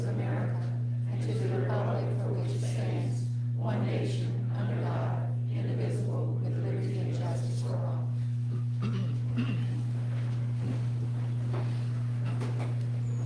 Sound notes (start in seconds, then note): 1.4 electronic hum